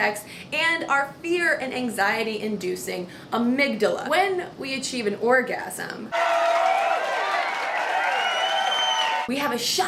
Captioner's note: cheering sounds